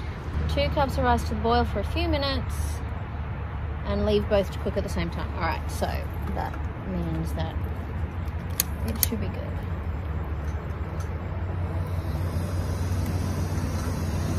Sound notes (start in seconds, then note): 8.5 gas lighter clicks; 11.7 gas stove hisses